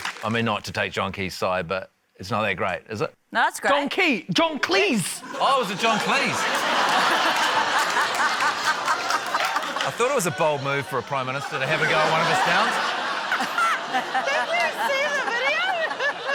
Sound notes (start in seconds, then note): 7.4 laughter; 13.4 laughs